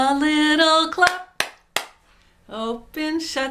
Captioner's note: clapping